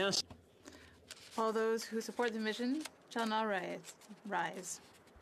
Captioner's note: speaking French